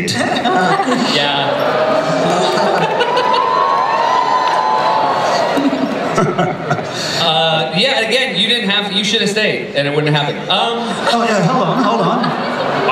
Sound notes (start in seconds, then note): 0.1 laughter; 3.7 cheering